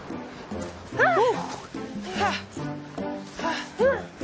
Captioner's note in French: both grunting